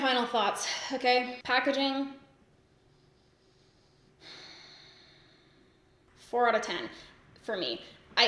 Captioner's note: sighs